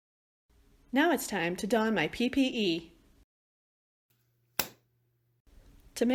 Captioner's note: glove snaps